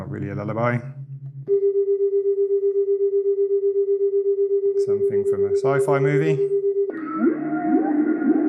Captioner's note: very deep and quiet hum; electronic sound; sound of whales